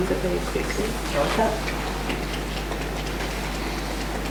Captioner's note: tapping